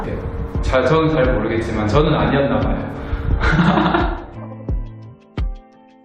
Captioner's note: laugh